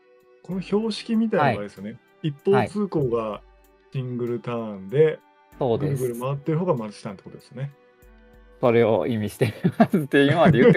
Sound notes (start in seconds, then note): 6.8 laughs; 9.4 laughs